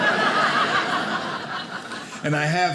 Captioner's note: audience laughing